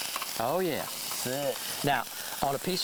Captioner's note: fish sizzles